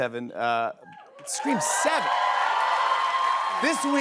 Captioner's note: cheers and applause